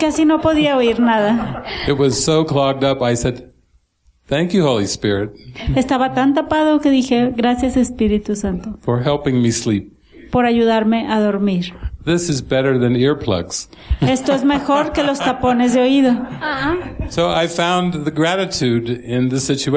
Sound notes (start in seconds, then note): 14.0 laughter